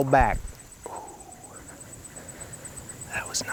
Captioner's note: whispering